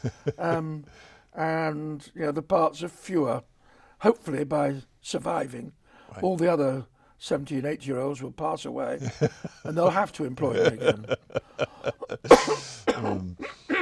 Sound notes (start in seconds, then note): 10.3 chuckles; 10.4 coughs